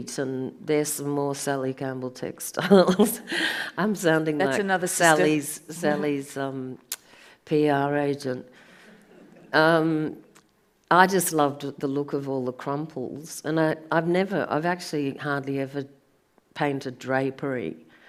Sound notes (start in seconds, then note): 8.8 audience laughs